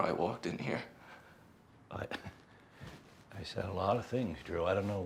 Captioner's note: chuckles